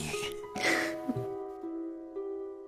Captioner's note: snickers